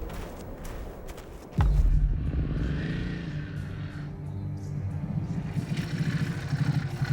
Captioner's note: suspenseful music; motor whirring